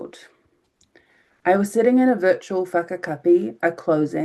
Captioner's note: speaking in foreign language